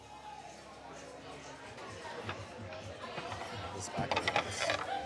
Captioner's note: people murmuring